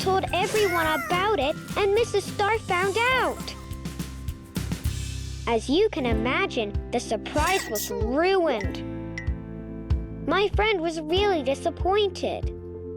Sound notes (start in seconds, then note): 4.0 Mrs. Star chattering; 9.0 planet whimpering